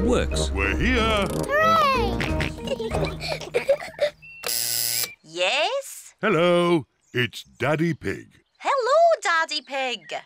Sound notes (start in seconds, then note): 1.8 kids giggling; 2.1 george oinks; 4.4 buzzer sounds